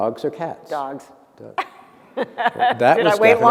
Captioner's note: laughter